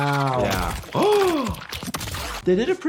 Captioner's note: gasps